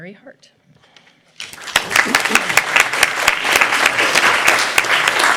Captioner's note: applause